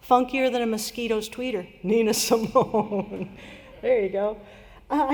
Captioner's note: laughter